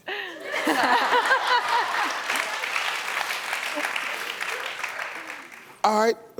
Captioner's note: laughs; audience laughs and claps